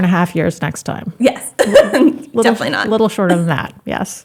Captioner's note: laughs